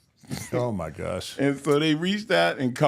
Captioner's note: host laughs